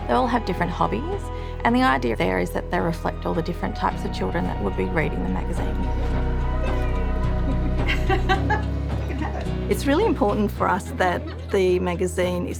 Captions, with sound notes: They all have different hobbies. And the idea there is that they reflect all the different types of children that would be reading the magazine. (bright rhythmic music) - Yay! (laughs softly) You can have it. - It's really important for us that the magazine